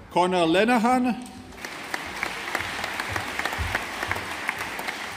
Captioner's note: audience applauding